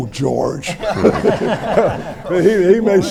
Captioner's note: everyone laughs